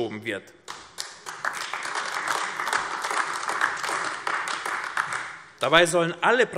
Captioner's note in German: Beifall AfD